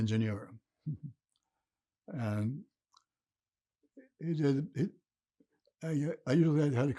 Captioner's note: laughing